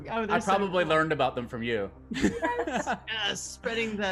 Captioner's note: laughs